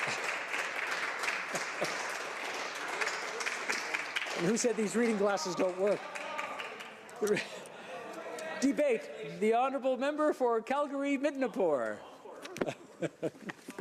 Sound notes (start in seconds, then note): 6.5 applause